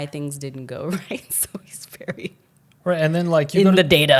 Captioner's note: laughs